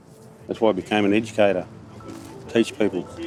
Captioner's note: rhythmical tapping